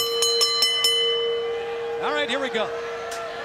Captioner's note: bell ringing